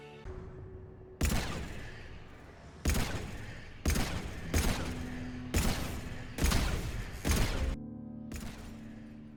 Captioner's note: bang